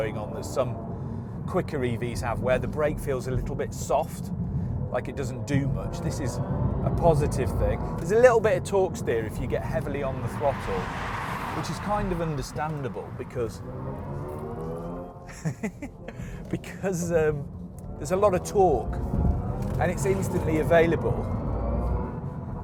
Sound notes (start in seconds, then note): 15.2 laughs